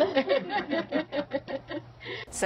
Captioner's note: joyful laughing